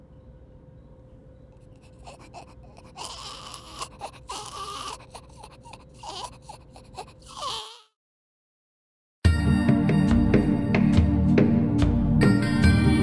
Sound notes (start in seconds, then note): 1.7 Gelatin Cries Weakly